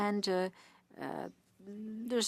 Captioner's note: speaking French